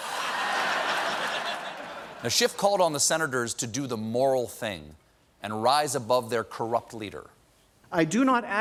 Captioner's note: laughter